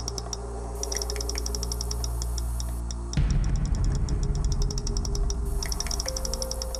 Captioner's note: high-pitched rapid clicking sound; clicking varies in speed